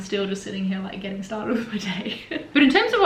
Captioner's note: laughs